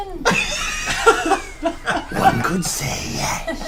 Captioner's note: all laugh